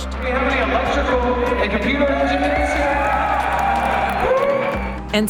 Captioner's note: crowd cheering and applause